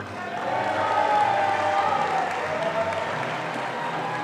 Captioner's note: audience applauding